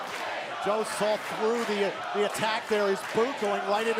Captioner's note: crowd cheering